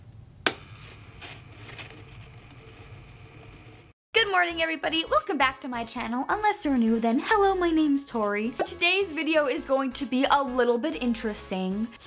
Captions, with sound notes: (record rolling) Good morning, everybody. Welcome back to my channel, unless you're new, then hello, my name's Tori. Today's video is going to be a little bit interesting.